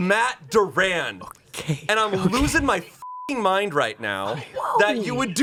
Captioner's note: beep